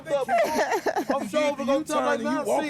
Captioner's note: laughter